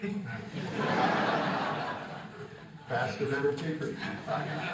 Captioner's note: crowd laughing